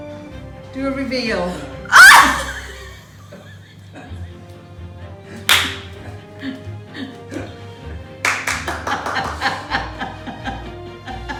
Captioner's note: wees self laughing